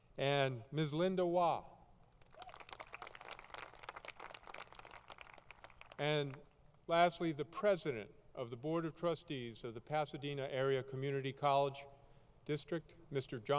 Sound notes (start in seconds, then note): 5.9 applause